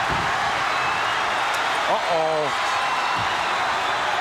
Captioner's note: crowd cheering